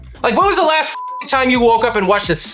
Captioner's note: beep